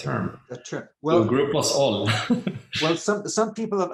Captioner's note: chuckling